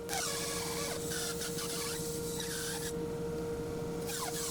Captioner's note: electric saw screeching